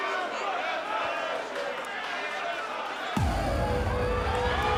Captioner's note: crowd chatter; crowd cheering